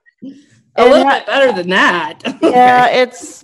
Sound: laughs

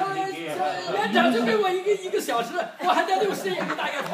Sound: speaking foreign language; group laughs

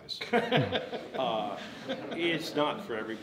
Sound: everyone laughs

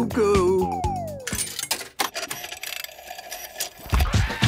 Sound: clicks, whirring; hip hop music plays

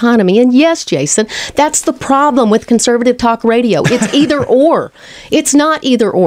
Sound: LEWIS laughs

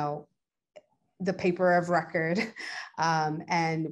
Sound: chuckles

